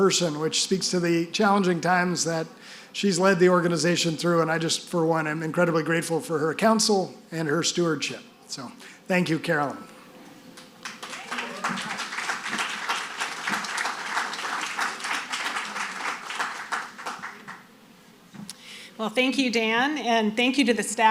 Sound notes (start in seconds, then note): 10.5 audience applauding